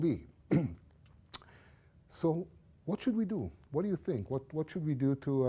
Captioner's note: cough